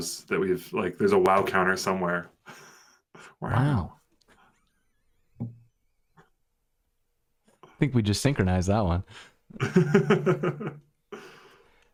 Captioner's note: laughter